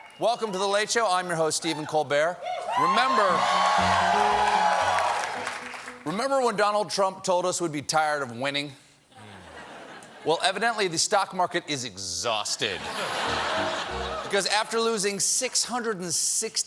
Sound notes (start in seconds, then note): 2.5 cheers and applause; 12.8 laughter